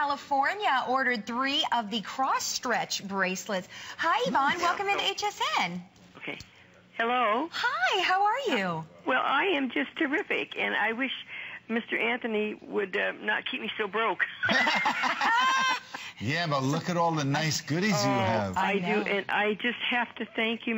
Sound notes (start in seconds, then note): 16.8 laughter